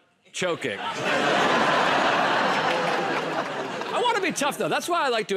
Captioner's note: laughter